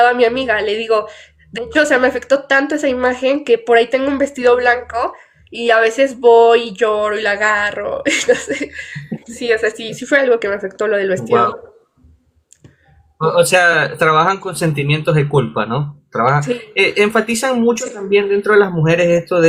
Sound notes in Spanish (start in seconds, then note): 8.0 risas